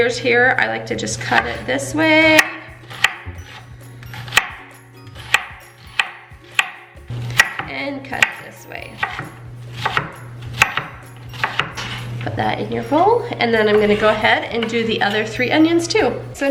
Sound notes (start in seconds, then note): 2.8 knife clunking on wood; 2.8 peaceful instrumental music